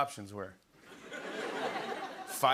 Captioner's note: laughter